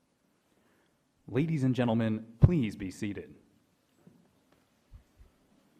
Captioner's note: voiceover